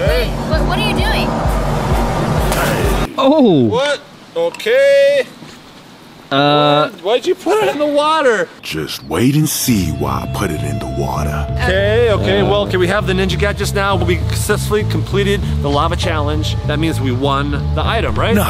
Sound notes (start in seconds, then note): 2.9 splash